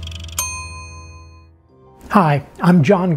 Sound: bell rings

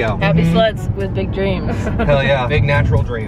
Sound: laughs

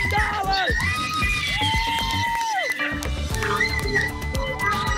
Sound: applause, cheering, screaming

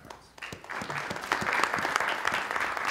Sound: applause

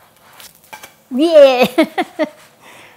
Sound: laughs

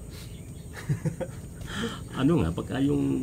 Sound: chuckles

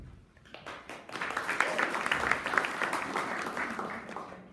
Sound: audience applauding

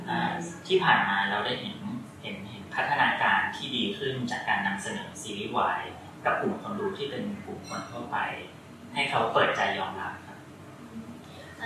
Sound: continuing in Thai

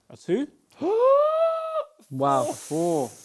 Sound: gasps

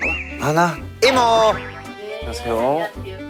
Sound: awkward accent

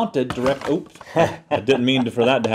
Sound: laugh

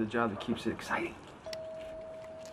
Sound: ringing of doorbell

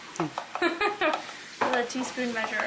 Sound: laughs

